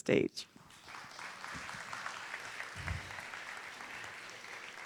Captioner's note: audience applauding